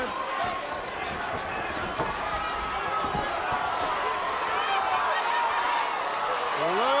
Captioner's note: crowd cheering